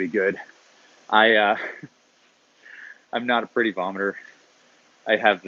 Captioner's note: laughs